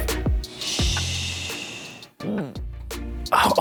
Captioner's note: grunting